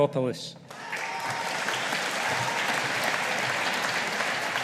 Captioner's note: audience applauding